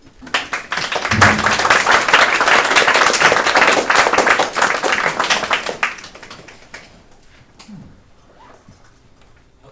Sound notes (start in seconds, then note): 0.2 audience applauding